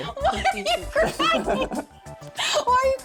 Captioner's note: laughs